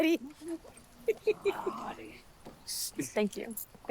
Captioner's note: laughing